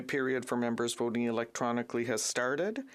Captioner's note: speaking French